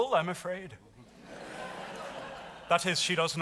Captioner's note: audience laughs